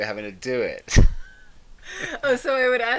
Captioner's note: both laughing